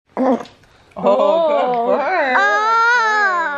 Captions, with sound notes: (burping) - Oh, good burp. - Oh, good burp! - Oh!